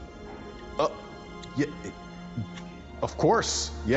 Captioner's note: Stone stutters